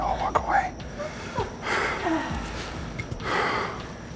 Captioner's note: girls crying; breathing heavily